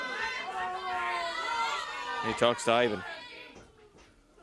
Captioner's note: crowd chatter